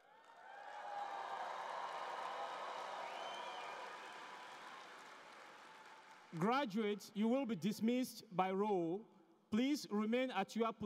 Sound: cheering and Applause

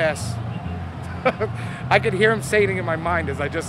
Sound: George laughs

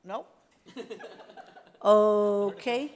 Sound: laughter

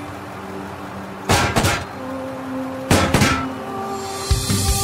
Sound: gun firing

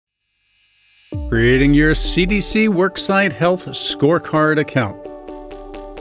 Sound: voiceover

